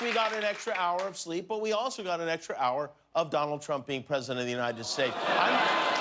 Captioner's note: cheers and applause